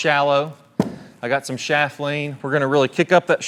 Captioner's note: bag thudding